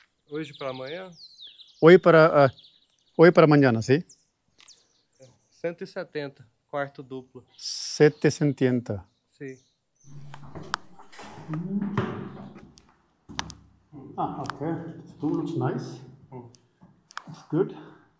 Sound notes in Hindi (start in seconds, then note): 0.0 पुर्तगाली में बोलना; 5.6 पुर्तगाली में बोलना